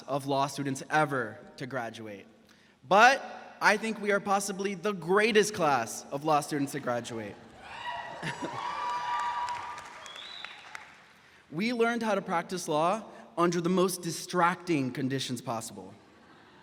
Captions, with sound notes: of law students ever to graduate, but I think we are possibly the greatest class of law students to graduate. (graduates cheering) We learned how to practice law under the most distracting conditions possible.